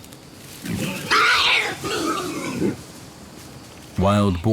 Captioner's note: wild boars squealing